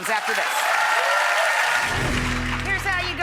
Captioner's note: audience applauds